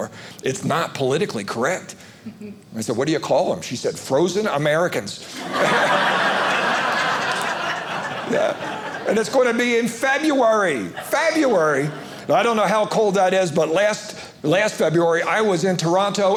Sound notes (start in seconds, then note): 5.3 audience laughing